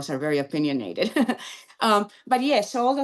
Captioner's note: laughs